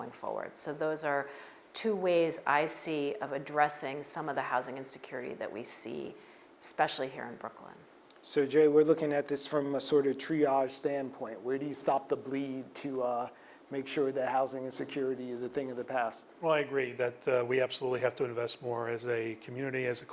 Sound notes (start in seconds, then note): none